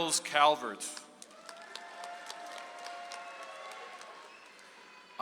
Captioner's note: audience applauds